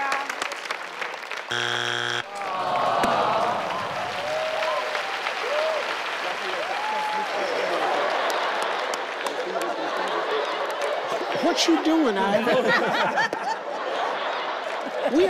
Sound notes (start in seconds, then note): 1.5 buzzer sounds; 12.3 everyone laughs